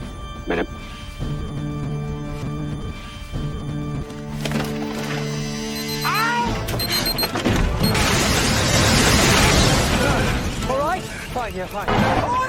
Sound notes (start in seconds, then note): 7.9 explosion followed by reverse explosion